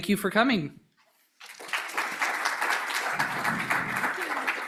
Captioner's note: applause